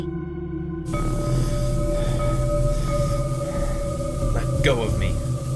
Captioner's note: shaky breathing